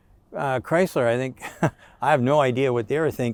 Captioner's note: chuckles